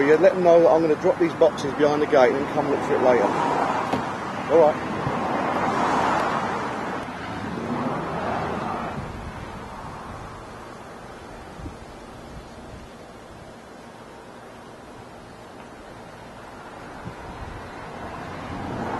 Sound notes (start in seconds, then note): 5.1 highway noises; 13.3 footsteps